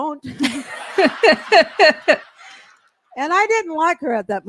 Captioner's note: laughter